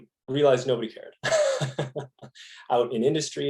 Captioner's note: laughing